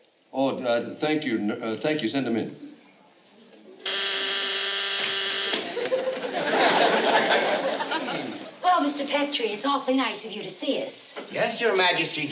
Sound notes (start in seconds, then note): 3.8 intercom buzzes